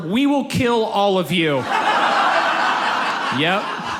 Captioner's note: audience laughs